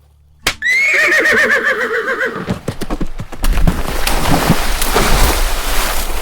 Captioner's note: Epona runs through the woods. Three splashes